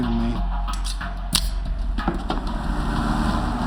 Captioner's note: switchblade opens